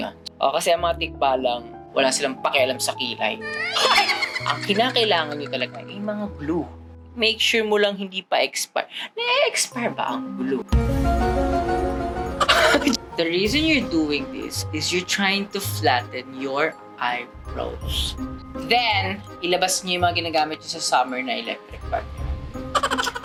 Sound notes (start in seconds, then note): 3.4 laughs; 10.6 pensive music playing; 12.4 chuckles